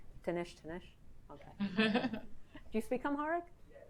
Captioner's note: speaks in foreign language